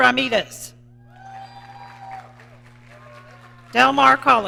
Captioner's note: audience cheering